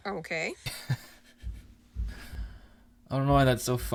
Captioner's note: laughing